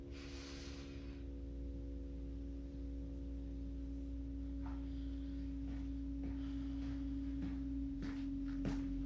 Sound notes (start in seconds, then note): 0.1 Rebecca inhaling; 6.2 Jim inhales and exhales